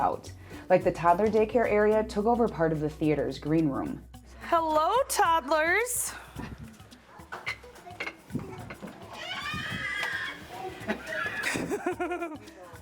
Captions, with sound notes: Like the toddler daycare area took over part of the theater's green room. Hello, toddlers. (kids scream)